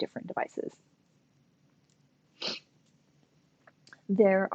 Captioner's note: silence